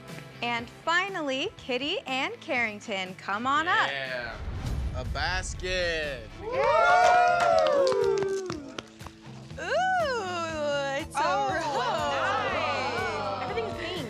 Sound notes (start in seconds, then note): 6.4 cheering